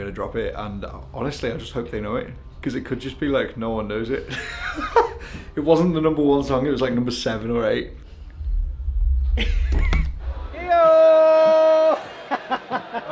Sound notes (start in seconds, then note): 4.6 laughs; 11.9 laughs